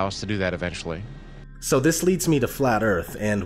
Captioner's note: voiceover